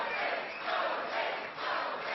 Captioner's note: cheering